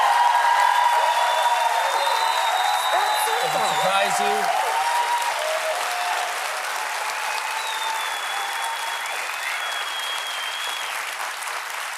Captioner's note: cheers and applause